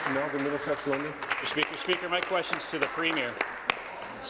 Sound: applause

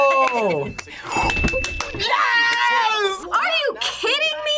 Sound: bell rings

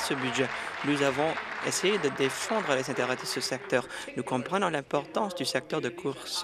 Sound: applause

